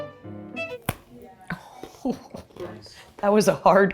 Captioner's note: gentle bright music; teeth crunch; chuckling